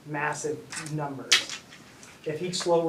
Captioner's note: thud